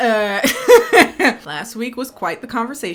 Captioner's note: laughing